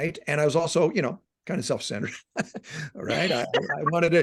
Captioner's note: laughing